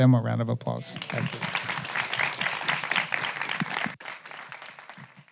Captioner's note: audience applauding